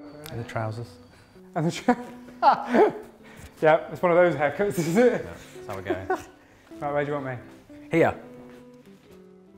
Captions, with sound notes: and the trousers. And the trousers...(laughs). Yep, it's one of those haircuts is it? That’s how were going. Right, where do you want me? Here!